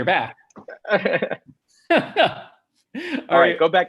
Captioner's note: chuckles